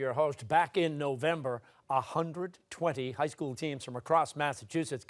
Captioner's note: none